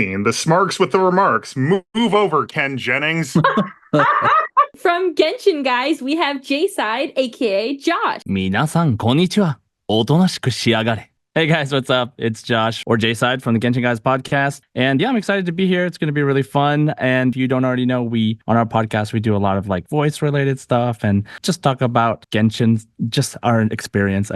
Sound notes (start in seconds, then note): 8.2 speaking Japanese: hi everyone, be quiet